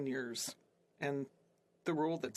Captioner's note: speaking French